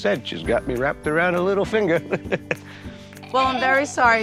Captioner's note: laughs